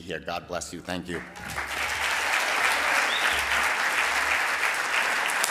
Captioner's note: audience clapping